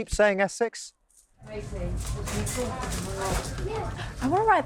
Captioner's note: people chattering